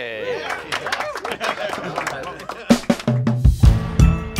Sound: applause; upbeat music plays

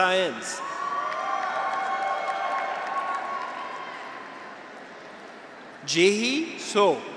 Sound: graduates cheer; audience applauds

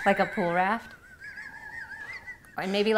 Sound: laughing

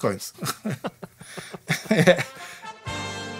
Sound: laughs

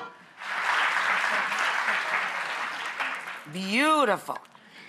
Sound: audience applause

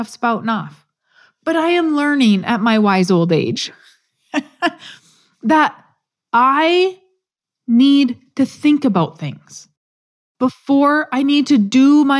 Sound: laugh

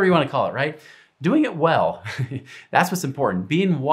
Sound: chuckles

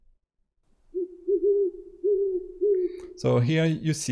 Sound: sound: owl

